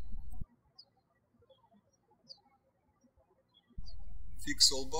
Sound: birds chirping

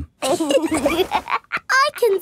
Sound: laughs

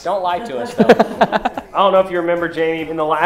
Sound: laughter

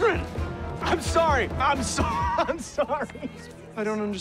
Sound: laughing

